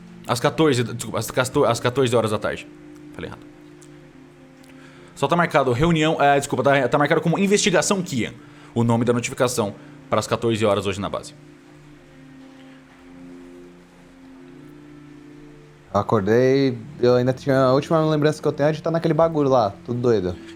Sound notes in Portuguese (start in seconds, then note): none